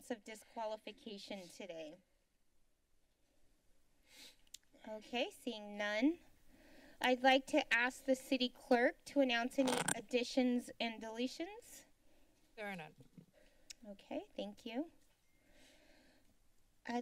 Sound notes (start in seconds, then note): 4.1 sniffs; 13.3 clicks Tongue